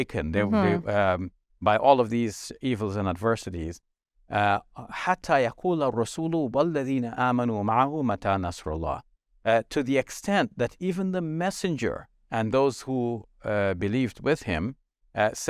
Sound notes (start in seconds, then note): 4.7 speaking Arabic